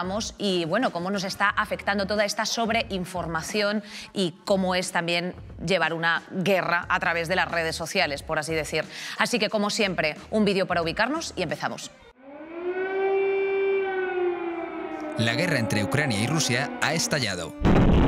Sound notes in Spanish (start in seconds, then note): 12.1 Alarma antiaérea